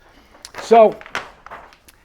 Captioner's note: paper crinkling